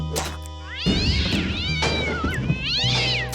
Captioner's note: cat yowls